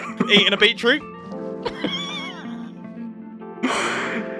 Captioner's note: laughs